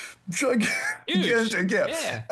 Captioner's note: laughs